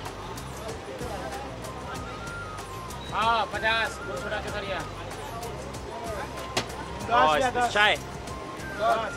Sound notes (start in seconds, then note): 3.6 speaking foreign language